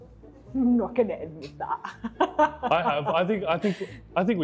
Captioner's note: laughs